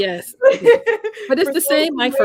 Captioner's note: laughs